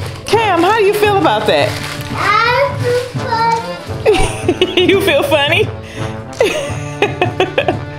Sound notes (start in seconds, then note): 4.0 laughing; 6.4 laughing continues